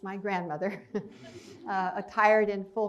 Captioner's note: chuckles